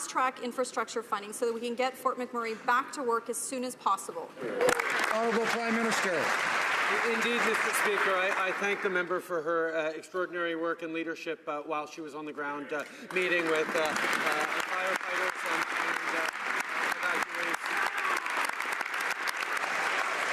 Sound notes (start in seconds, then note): 7.5 some Applause